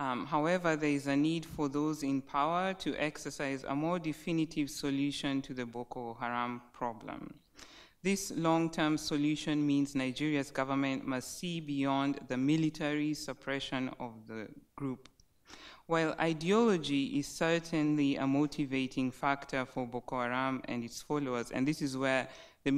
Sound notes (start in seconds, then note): none